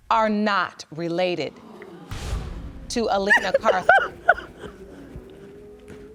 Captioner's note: crying